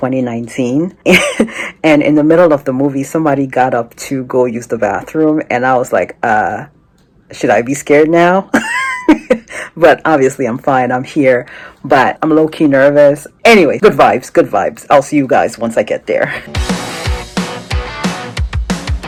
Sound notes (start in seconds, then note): 8.5 chuckles; 16.4 hard Rock Music